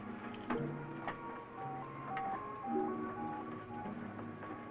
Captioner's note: beeping